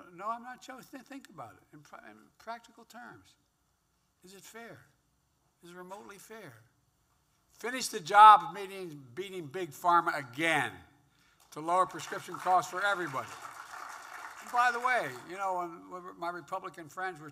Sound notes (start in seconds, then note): 13.2 applause